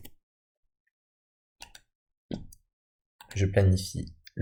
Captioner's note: Clic